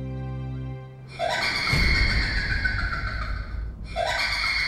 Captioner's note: maniacal laugh